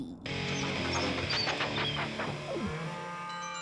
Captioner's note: chopper squeaks